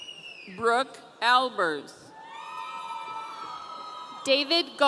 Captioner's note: audience cheering